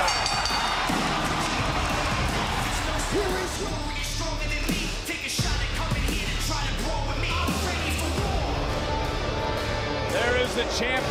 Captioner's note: bell rings